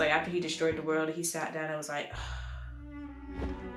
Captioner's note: sigh of relief